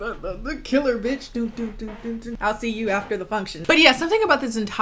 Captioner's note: hums